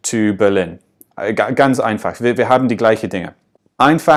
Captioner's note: in English